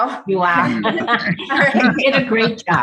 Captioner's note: laughing